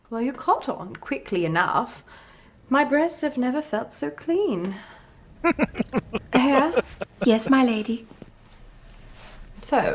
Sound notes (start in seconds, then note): 5.4 laughing